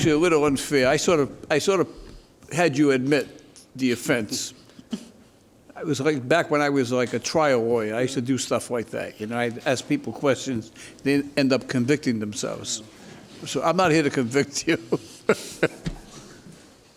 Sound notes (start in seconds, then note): 14.1 laughs